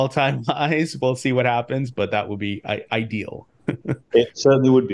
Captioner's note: laughs